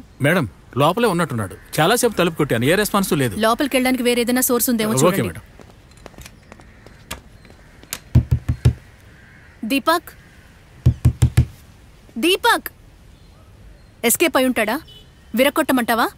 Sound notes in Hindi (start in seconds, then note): 7.9 दस्तक; 10.8 दस्तक